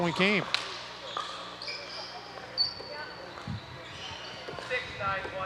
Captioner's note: people chattering